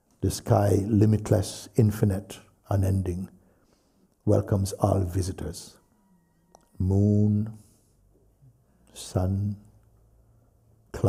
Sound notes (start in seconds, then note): none